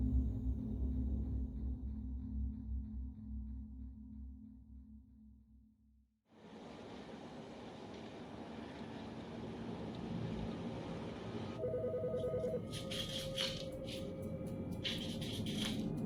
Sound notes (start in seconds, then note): 6.6 street noise; 11.6 phone ringing